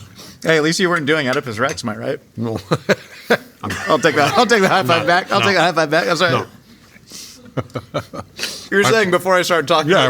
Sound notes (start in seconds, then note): 3.6 J.K. laughing; 7.5 J.K. laughing